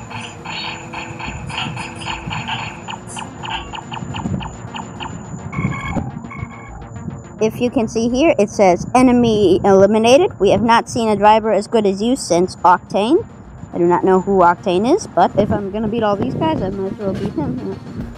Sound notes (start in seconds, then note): 0.0 laser shots; 5.3 computer bleeping